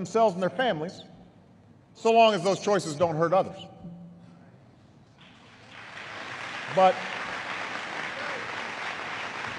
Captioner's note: applause